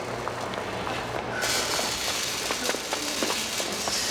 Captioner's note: buzzing